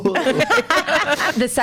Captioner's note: laughs